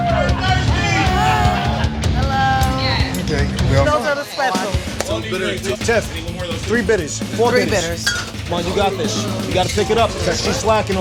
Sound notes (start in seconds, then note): 5.0 chatter